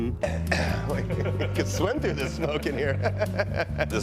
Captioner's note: singing; cough